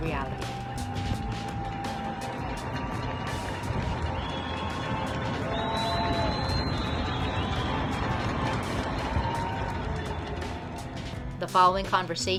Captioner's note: applause and Cheers